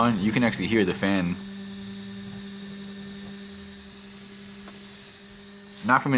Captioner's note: fan noise